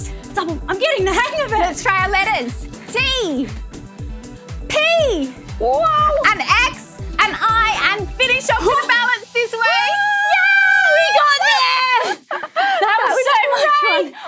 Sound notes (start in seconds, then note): 9.6 joyful screams